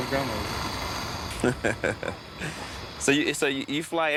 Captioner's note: laughing